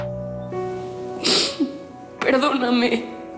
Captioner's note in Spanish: Sollozo